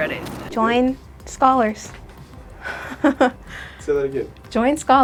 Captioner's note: laughs